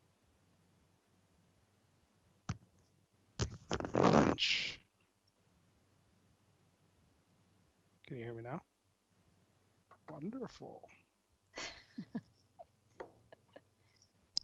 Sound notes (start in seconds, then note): 11.5 laughing